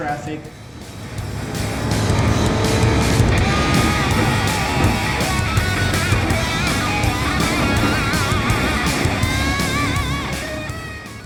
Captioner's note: engines revving, cars noises